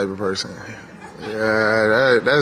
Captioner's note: audience laughs